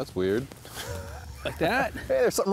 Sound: laughs

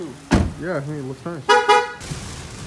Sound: car chirps

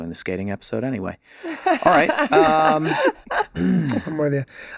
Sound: laughing

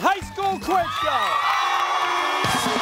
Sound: cheers and applause

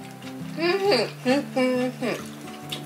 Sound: eating sounds

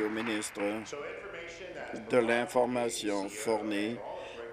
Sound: applause

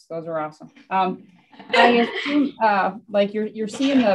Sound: all laughing

